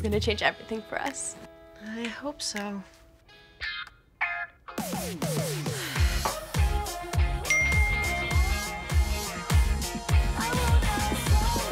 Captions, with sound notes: This is gonna change everything for us! - I hope so. (upbeat music) (phone dinging)